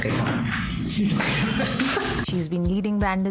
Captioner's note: laugh